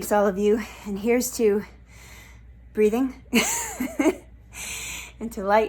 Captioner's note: laughs